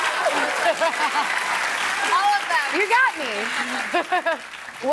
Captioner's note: laughter